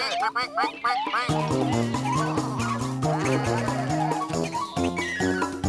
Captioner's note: chattering